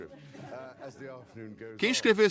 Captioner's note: laughter